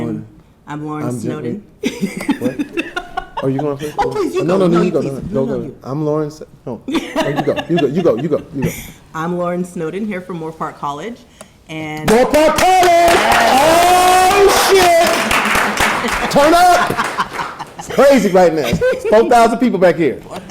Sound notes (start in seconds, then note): 1.9 laughs; 6.9 laughing; 12.1 audience applauding